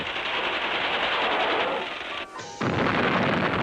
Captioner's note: guns firing